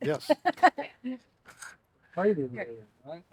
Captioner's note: laughs